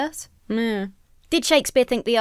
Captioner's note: hums indecisively